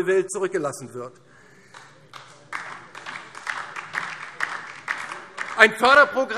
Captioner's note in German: Beifall DIE LINKE